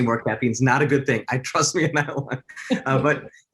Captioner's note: laughs